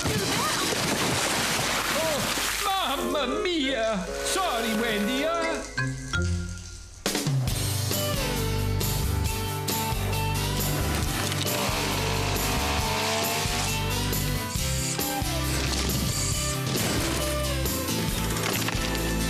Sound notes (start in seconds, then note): 0.0 tap! Tap!; 0.0 splash!; 12.3 buzzing; 16.5 crash!